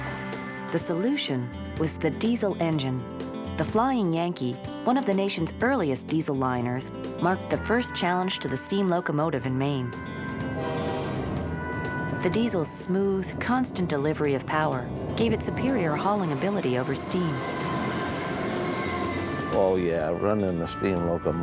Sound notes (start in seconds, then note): 10.5 train horn honking